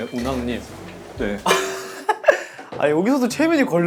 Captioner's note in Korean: 헛웃음